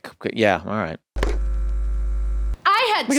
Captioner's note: VCR buzz